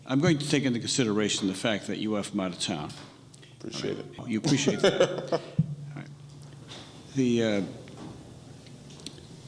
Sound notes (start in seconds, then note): 4.4 laughing